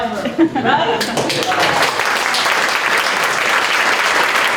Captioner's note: applause